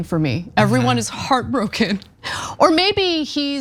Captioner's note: laugh